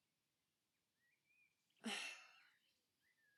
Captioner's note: sighs